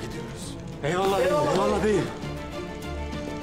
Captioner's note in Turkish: Hepsi bir ağızdan